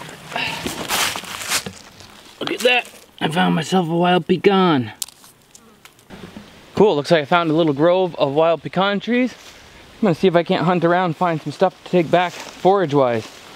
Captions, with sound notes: (crunching) Look at that. I found myself a wild pecan. Cool looks like I found a grove of wild pecan trees. I'm gonna see if I can't hunt around and find some stuff to take back forage wise.